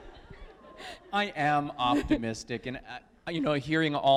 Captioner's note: laughter